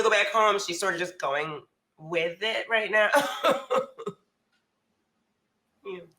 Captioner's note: laughs